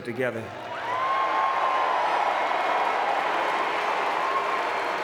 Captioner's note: audience cheering and clapping